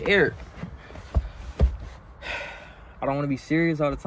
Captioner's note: sigh